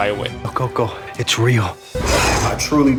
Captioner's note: creature hisses